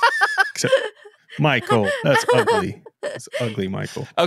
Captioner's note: laughing